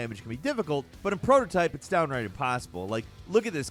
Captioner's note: none